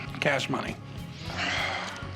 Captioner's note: sighs